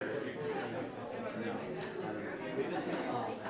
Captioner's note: crowd chattering